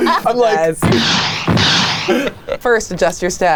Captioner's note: rockets blasting